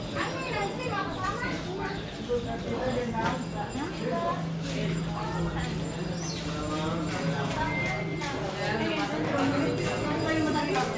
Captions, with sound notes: ANO YAN SINGA KASAMA *BELL RINGING* *PEOPLE CHATTING*